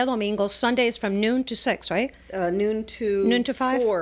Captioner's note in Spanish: Hablando ingl\s